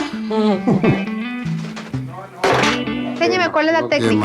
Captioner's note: laughter